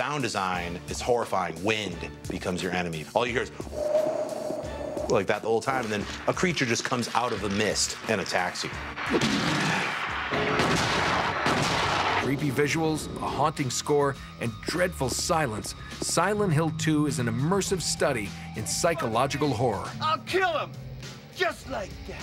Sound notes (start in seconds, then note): 5.3 mimics wind howling; 11.0 gunshots